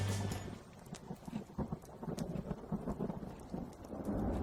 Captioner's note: upbeat rock music; thunder rumbling